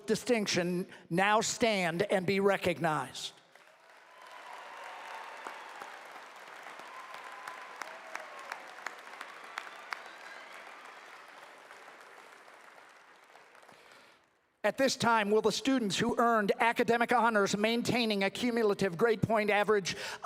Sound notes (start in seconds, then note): 5.8 applause